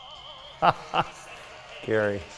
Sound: laughs loudly

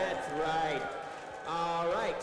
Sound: cheering

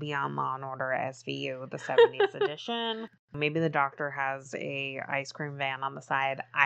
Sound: laughs

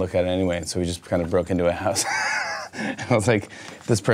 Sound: laughs

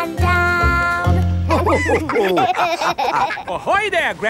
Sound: all laughing

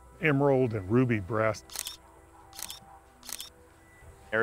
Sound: camera shutter clicking

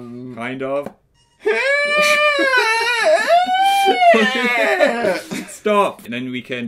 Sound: high pitched squeal/groaning

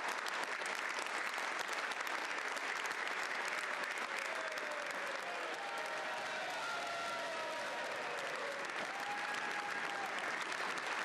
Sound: applause

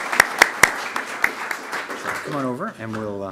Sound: applause

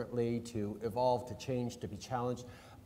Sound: none

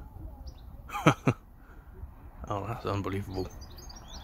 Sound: chuckling

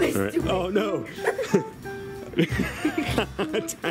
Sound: laughing

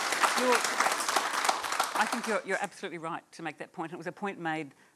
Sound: applause

